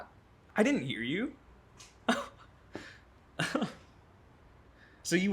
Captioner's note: chuckles